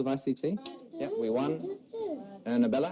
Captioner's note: foreign language